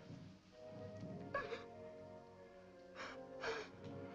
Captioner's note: sobbing